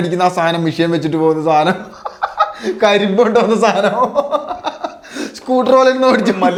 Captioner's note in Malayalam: പൊട്ടിച്ചിരി